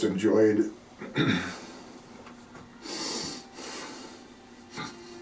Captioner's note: man clearing throat